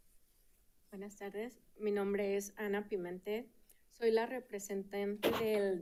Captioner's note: speaking in Spanish